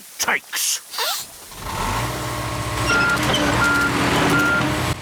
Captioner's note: sniffs; engine roars